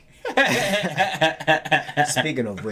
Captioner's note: laughing